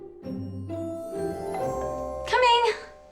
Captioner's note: doorbell